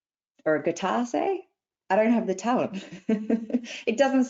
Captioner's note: laughs